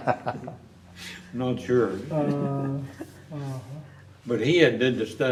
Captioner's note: laughter